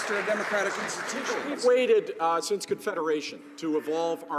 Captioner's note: some Applause